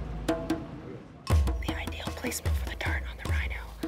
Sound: whispering

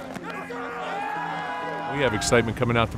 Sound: cheering

